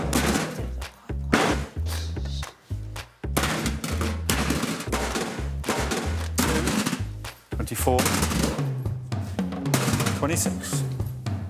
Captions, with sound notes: Two, five. Quiet, quiet, shh. [cans thudding] Twenty-four.